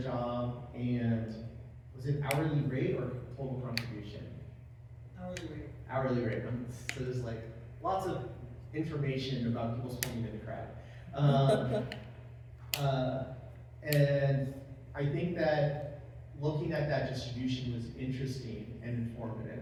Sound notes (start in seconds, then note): 11.2 laugh